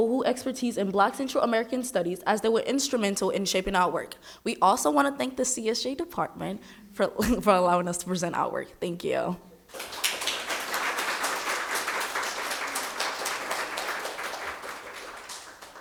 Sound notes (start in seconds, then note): 9.7 audience applauding